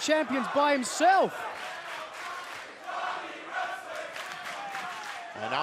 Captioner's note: crowd cheering